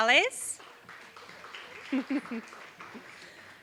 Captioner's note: applause